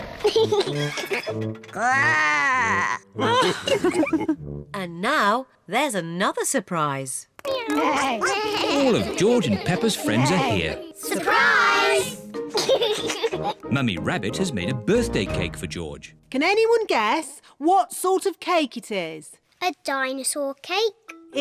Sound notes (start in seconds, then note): 0.2 laughs; 1.6 growls; 3.2 all laugh; 7.6 all making animal sounds; 12.5 laughs